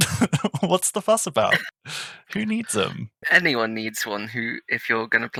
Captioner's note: laughing